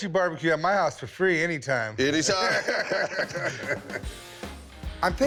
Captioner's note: both laugh